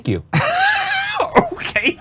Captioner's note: laughing